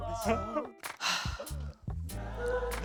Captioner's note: sigh